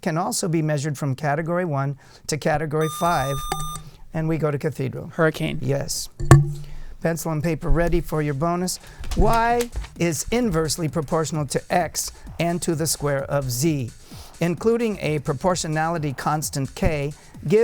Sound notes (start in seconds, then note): 2.8 buzzer